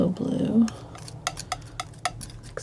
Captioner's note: tapping